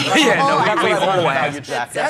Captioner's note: laughs